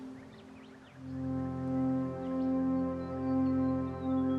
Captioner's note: birds chirping